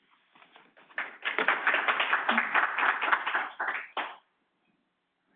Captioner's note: audience applauding